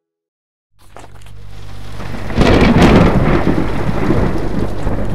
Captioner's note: papers rustling - Thunder crackling